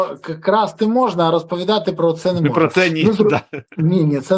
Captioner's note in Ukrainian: сміх